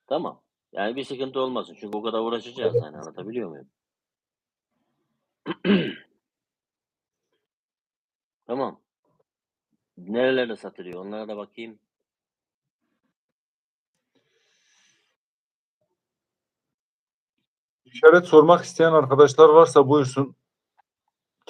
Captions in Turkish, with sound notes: Tamam. Yani bir sıkıntı olmasın çünkü o kadar uğraşacağız yani. Anlatabiliyor muyum? [boğazını temizler] Tamam. Nerelerde satılıyor onlara da bakayım. İşaret sormak isteyen arkadaşlar varsa buyursun.